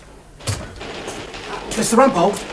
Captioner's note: typewriter keys clatter